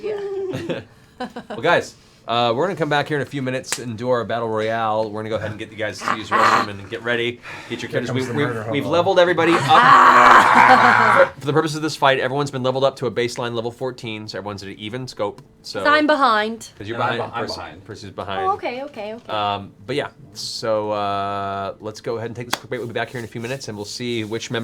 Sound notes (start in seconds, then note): 9.6 fierce growls, laughter